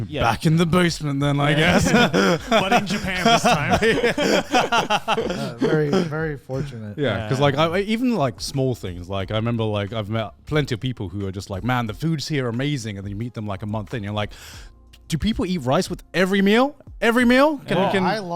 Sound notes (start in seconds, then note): 4.3 all laughing